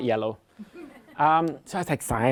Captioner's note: laughter